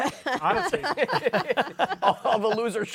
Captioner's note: laughter